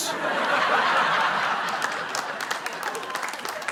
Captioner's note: laughter